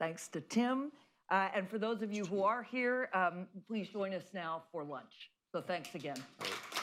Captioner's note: applause